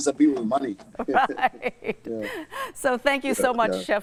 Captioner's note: laughs